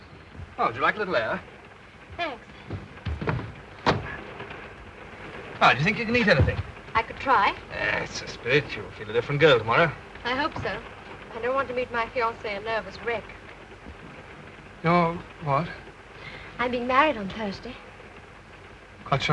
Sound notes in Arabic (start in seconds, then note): 2.7 صوت النافذة تنفتح